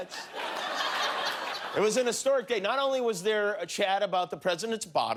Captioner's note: laughter